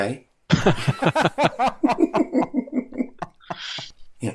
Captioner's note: laughter